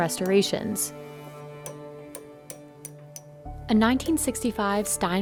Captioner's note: hammering